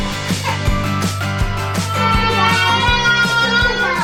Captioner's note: child crying